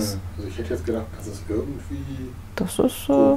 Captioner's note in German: Aus dem Off